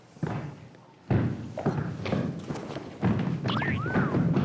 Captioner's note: laughing